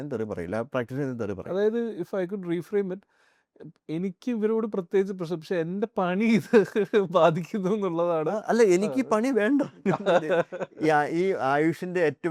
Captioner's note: laughs